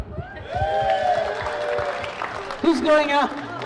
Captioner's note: cheering